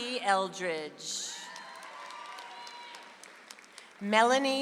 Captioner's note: audience applauds